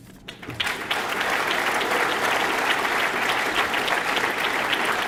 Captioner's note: audience clapping